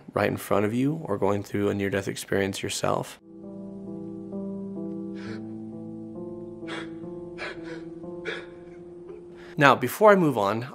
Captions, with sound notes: right in front of you or going through a near-death experience yourself. (intense music) (man crying) Now before I move on,